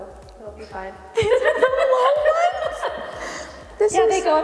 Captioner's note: laughing